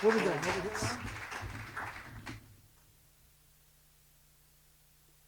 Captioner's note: applause; pause